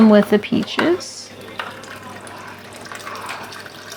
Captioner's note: water splashing